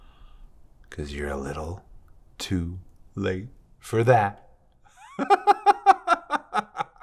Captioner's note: laughs